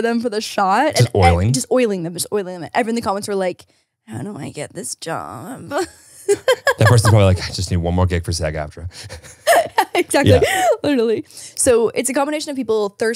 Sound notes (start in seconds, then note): 5.7 laughs